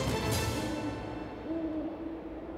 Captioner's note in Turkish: Baykuş sesi